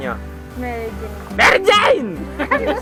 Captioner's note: screaming